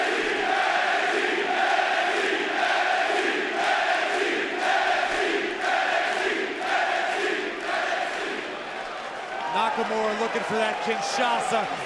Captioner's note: fans chanting